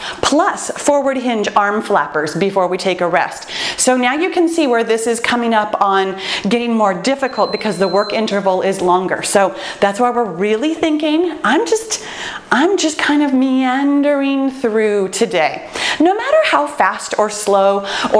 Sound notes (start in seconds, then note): 7.2 timer beeps